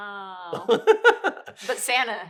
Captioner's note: laughs